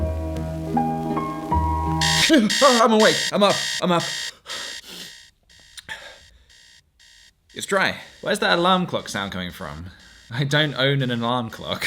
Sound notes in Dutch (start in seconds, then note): 2.0 alarm klok geluid; 4.4 alarm vaagt weg